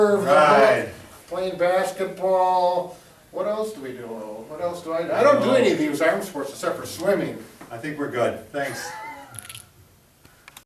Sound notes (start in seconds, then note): 8.6 chuckles